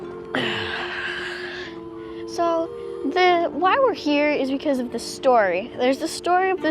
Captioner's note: sigh